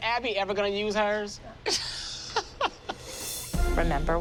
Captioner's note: chuckles